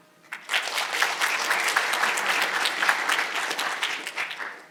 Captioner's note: audience applauding